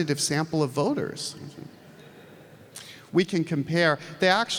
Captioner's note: audience laughs